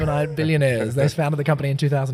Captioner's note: laughs